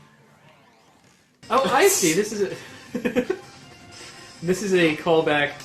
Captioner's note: chuckles